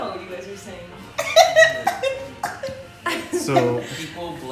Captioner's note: laughing